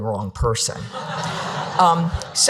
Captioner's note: audience laughing